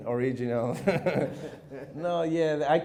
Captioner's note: chuckles